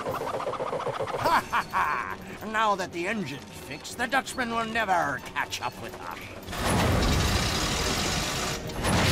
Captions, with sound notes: [laughing] Now that the engine's fixed, the Dutchman will never catch up with aye.